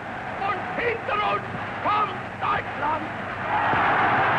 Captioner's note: crowd roaring; Hitler screaming in German; crowd roars